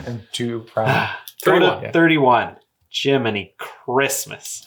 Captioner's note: sigh